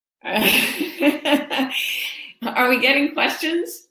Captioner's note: laughing